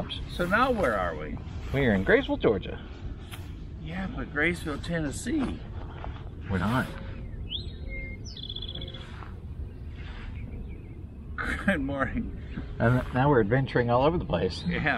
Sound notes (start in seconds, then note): 1.7 in presenter voice; 11.3 laughing